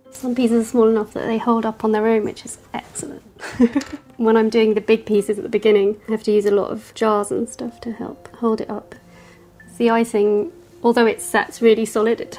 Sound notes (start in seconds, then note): 3.4 chuckles